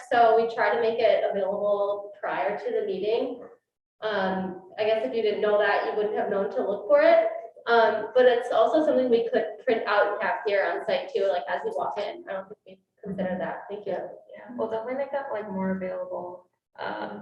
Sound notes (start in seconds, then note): none